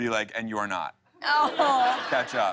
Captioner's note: laughter